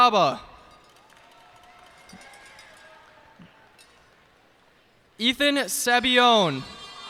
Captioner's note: cheers and applause